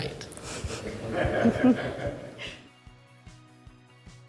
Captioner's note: everyone laughing